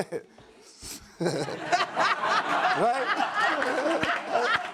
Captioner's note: audience laughs